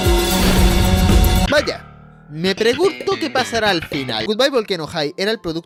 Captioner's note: sarcasm